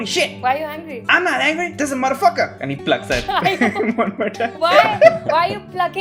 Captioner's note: laughter